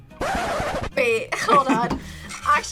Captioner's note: record scratches